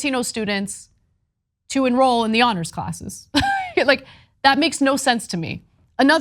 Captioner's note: laugh